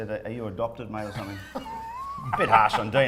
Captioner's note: laughing